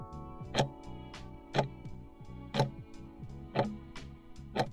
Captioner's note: timer ticking